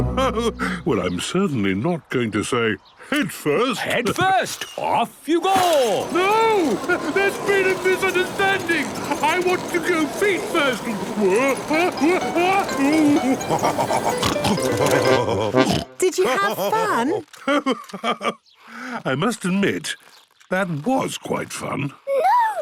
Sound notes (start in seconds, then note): 11.4 shouting; 13.4 laughing, snorting